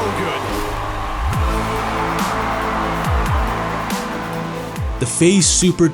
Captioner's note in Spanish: el público vitorea; música dramática